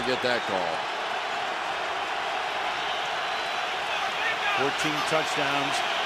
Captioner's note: cheering